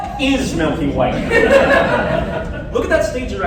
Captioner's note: laughter